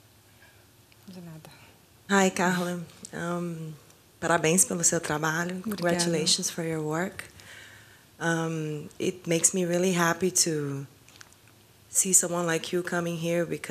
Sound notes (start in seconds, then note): 4.2 speaking foreign language